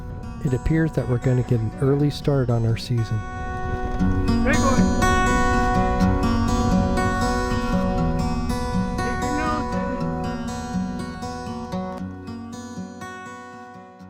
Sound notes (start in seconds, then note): 6.5 wind blowing